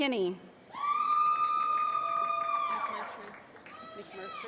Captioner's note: cheering